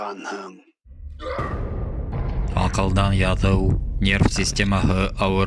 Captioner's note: grunts